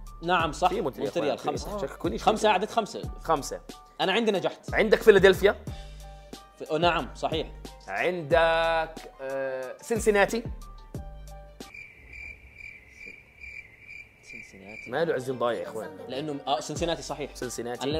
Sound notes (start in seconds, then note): none